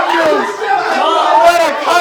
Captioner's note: cheers